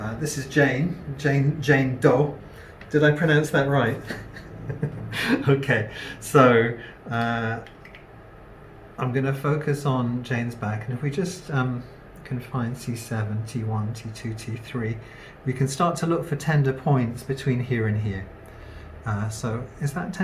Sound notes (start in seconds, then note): 3.9 laughs at own joke because no one else is